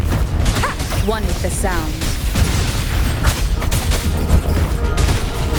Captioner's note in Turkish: Çatışma sesleri